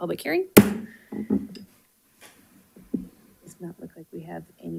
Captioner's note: gavel bangs